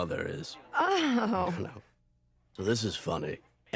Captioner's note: Kirkman chuckles nervously